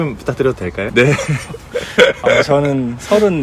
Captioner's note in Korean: 웃음